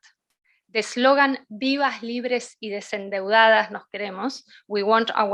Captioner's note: speaking in foreign language